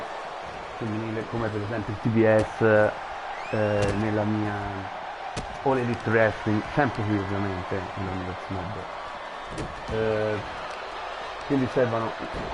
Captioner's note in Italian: Applauso